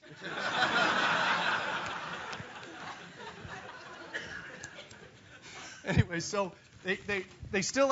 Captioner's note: laugh